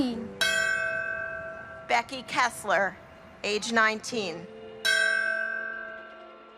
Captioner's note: bell chimes; bell chimes